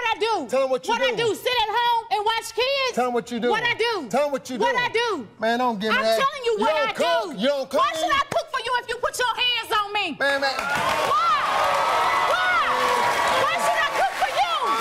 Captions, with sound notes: - Tell them what? - Tell them the truth. - Tell them what? - Tell them what you do? - What I do? - Tell them what you do. - What I do, sit at home and watch kids? - Tell 'em what you do. - What I do? - Tell 'em what you do. - What I do? - Man, don't give me that. - I'm telling what I do. - You don't cook, you don't clean. - Why should I cook for you if you put your hands on me? - Man, that-- (audience cheering) - Why, why, why should I cook for you, why?